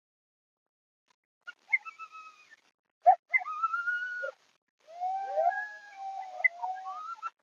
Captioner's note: coyotes howling